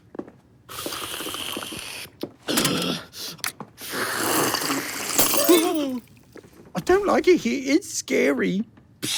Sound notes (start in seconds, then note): 5.3 gasps